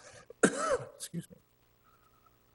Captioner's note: coughs